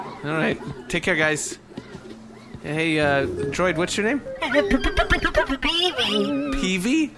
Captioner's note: receding footsteps; stammering